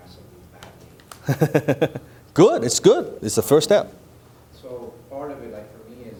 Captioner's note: laughing